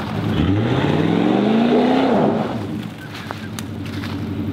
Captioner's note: engine revs